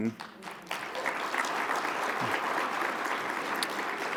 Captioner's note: audience clapping